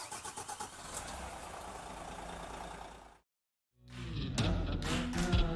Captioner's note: car engine roaring; upbeat music